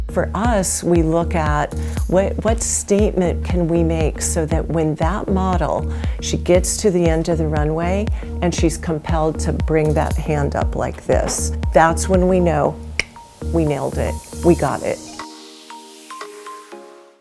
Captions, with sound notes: For us we look at, what statement can we make so when that model, she gets to the end of the runway, and she's compelled to bring that hand up like this, that's when we know, (snapping) we nailed it, we got it (upbeat music)